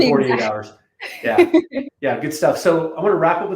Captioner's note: laughing